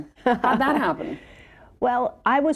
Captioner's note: chuckles